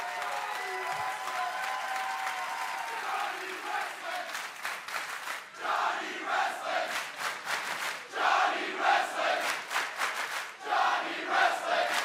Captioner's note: crowd cheering